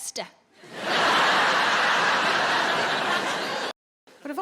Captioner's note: audience laughing